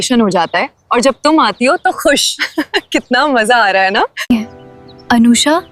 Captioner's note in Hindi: हंसी